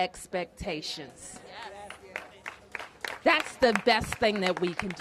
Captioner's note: applause